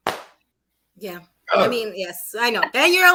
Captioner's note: grunts